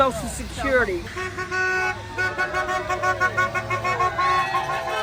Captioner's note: horn honking